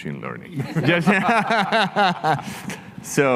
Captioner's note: everybody chuckles